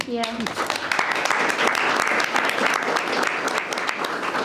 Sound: members clapping

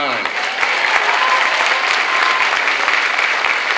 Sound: clapping

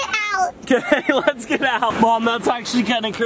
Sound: laughs

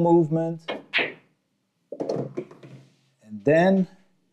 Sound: balls clanging

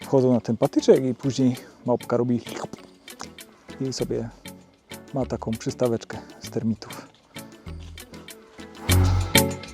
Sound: slurp

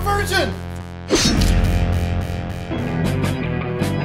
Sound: tense music; slicing; uptempo eerie music

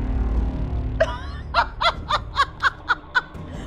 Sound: laughs

